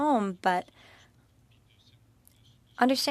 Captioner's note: speaking French